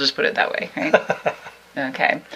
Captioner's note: laughs